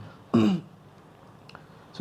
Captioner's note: clear throat